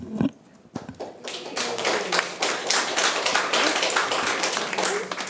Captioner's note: audience applauding